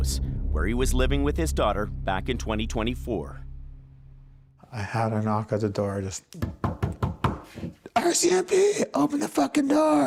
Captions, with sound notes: where he was living with his daughter back in 2024. -I had a knock at door, just... -[knocking on table] "RCMP, open the fucking door."